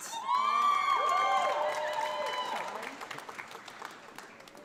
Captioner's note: audience applauds